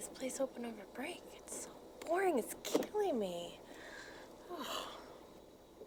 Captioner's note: sighs